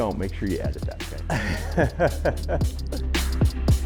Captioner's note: laughing